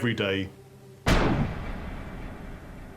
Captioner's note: gunshot